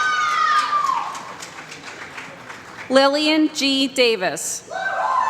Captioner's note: applause